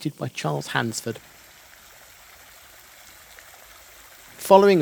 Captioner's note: sound of running water from fountain